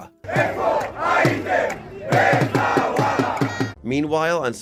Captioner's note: protesters chanting in Hebrew